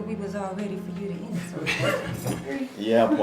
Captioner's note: family laughing